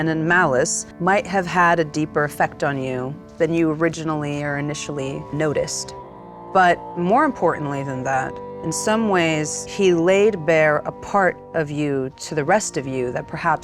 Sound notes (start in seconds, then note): none